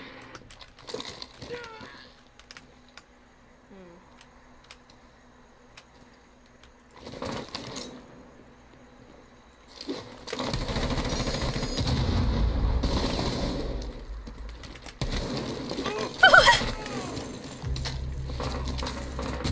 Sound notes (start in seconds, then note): 15.9 laughing